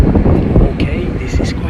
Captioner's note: wind howling